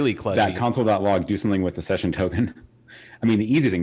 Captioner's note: laughing